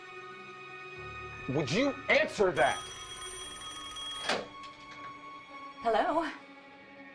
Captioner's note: phone rings